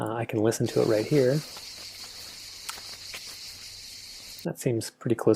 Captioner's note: sound clip playing sounds of insects chirping and feet walking on gravel